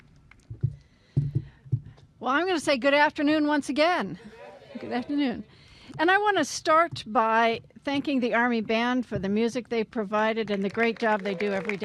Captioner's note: applause